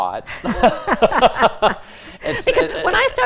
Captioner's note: both laughing